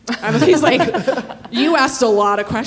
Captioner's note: everyone laughing